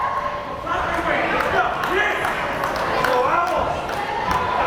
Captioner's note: coach shouting